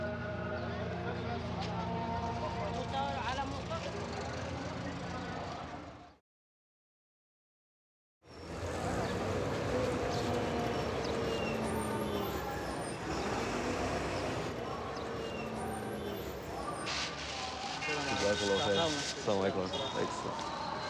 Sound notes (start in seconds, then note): 0.2 singing in a foreign language; 8.4 bus engine running; 18.4 speaking in a foreign language